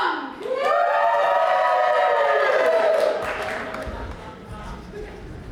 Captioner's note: audience cheers